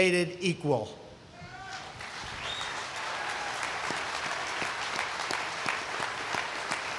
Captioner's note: applause